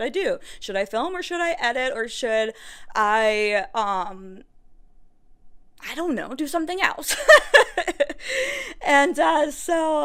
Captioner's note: more cute giggles